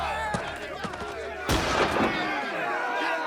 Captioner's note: gunshot